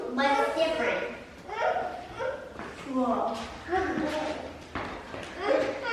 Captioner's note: whines